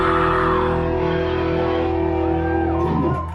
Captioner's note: crowd cheering